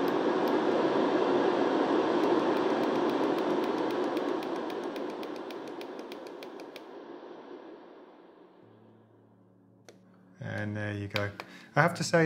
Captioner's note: white noise